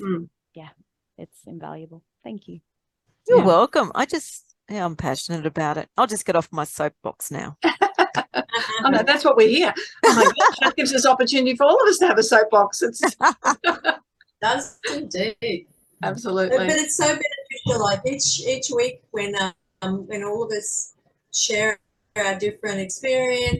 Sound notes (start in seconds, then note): 13.0 everyone is laughing